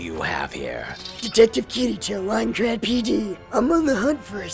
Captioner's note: raspier voice